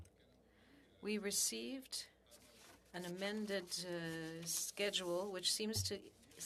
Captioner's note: speaking French